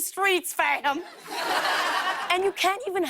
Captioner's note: laughter